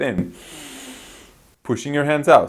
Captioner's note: inhales